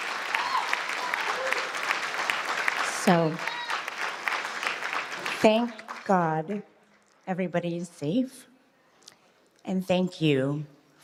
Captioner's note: applause